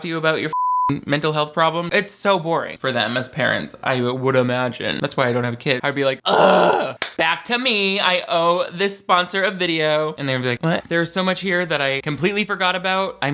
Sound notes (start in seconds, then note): 0.7 beep; 6.2 groans